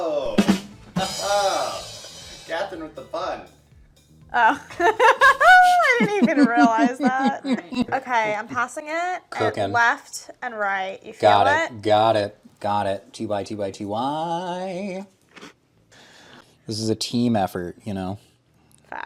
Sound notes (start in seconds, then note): 0.2 drum rimshot; 4.4 laughs